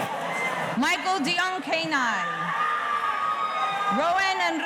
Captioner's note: audience cheering